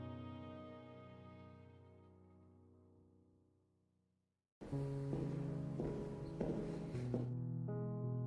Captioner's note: none